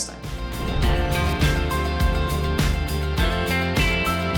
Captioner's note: logo whooshing